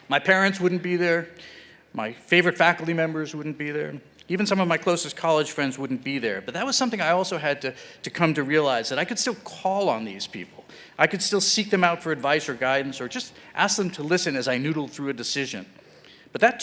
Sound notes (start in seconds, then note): none